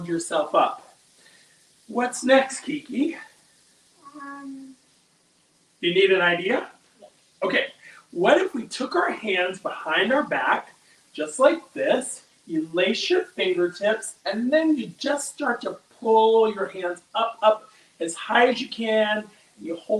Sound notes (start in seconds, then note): none